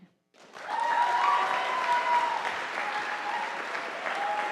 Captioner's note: audience applauding